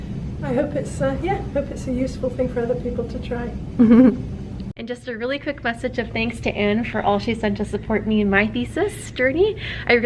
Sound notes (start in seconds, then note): 3.8 chuckles